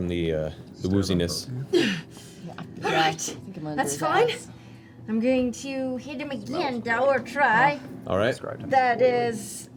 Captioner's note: grunts in pain